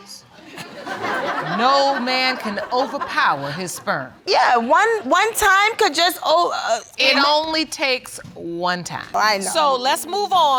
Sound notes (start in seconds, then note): 0.4 audience laughing; 5.7 stammering